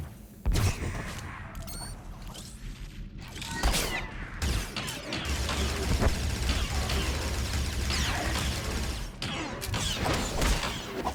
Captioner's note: gun fires